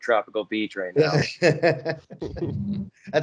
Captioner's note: laughs